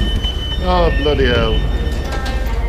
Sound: train announcement in background

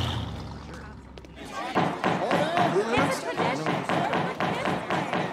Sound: chattering

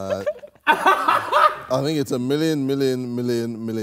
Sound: Ethan cackles

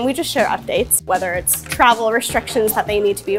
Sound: screen scrolling

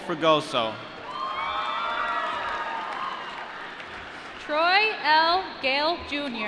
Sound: applause

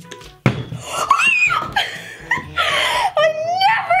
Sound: bottle landing; high-pitched gasping

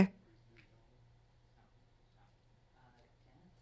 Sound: attendees chatting quietly

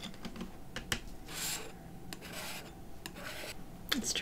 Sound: palette knife scraping on the paper

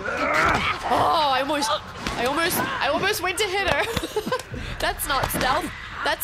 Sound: laugh

